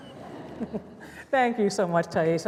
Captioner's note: laughter